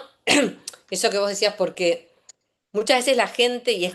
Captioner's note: clears throat